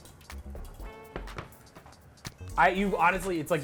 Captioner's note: tray taps